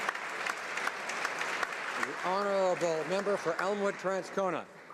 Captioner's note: speaking ukrainian; some Applause